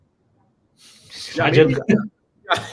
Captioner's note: laughs; chuckling